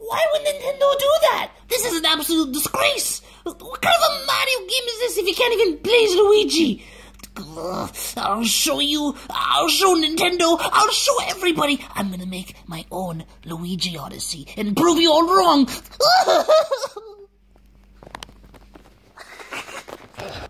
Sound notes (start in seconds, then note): 7.2 grumbles; 15.9 crying; 19.2 off-camera laughter